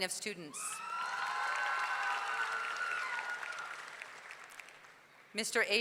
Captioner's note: audience cheering; audience clapping